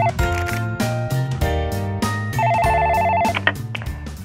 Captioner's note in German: Telefon klingelt; Anrufbeantworter geht an